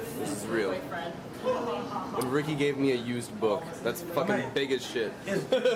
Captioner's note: laughs